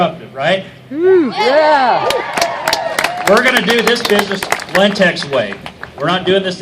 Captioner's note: cheers